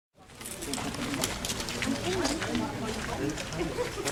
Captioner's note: people Waling and Talking